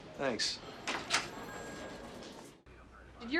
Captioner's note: door opens